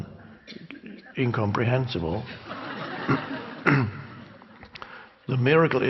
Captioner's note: crowd laughs